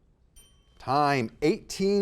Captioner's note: bell dings